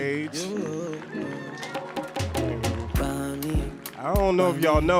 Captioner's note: audience cheering and applauding